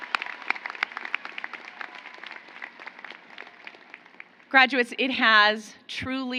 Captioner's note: applause